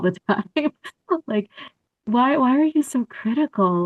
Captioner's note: laughter